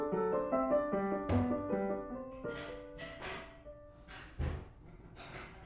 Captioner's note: distant clattering